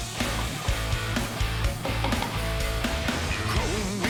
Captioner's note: knife chopping